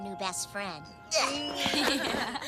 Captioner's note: group laughter